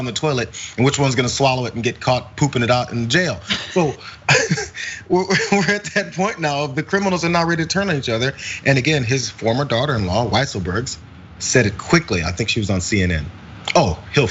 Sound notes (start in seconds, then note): 2.9 laugh